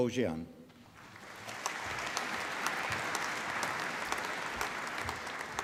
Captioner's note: applause